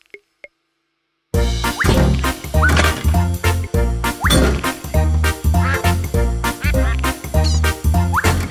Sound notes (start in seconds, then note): 5.5 quacks